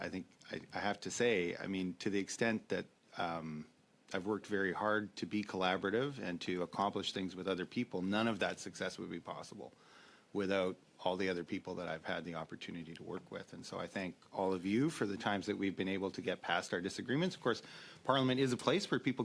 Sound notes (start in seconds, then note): 7.3 speaking French